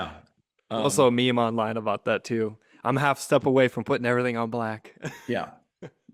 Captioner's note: laughs